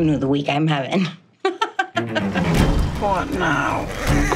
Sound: laughs

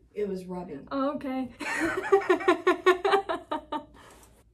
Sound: laughing

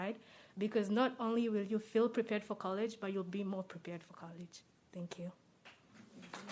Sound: applause

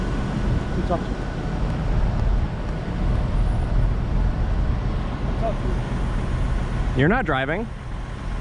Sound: none

